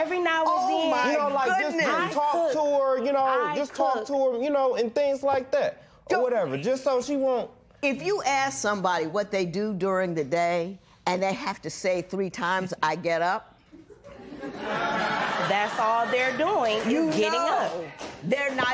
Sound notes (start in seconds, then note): 13.7 laughter